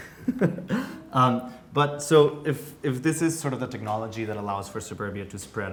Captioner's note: laughs